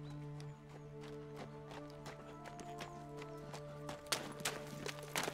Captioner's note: hooves clomping